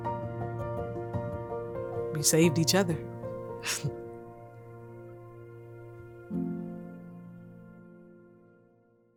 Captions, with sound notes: We saved each other. (laughs) (gentle music)